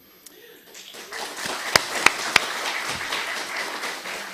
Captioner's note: audience clapping